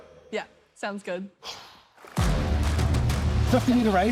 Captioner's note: exhales